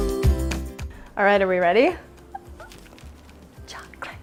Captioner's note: squeaks with glee